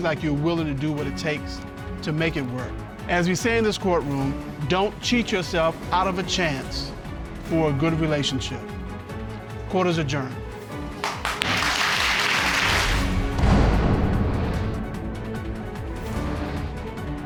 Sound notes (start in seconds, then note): 10.9 applause